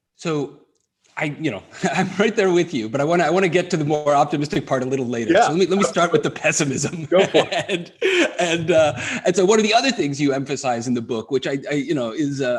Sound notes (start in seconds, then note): 0.4 laughs; 6.6 laughter